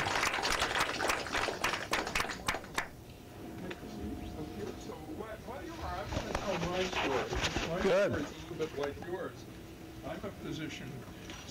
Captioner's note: applause